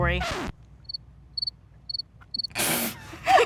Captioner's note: crickets chirp; laughter